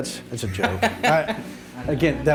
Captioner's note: laughing